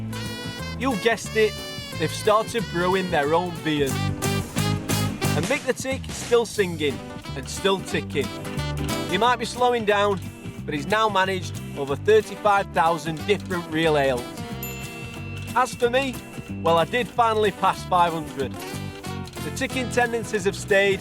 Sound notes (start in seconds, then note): 14.6 pinging